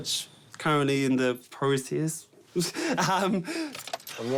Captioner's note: laughs; key turns, engine starts